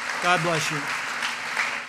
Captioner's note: applause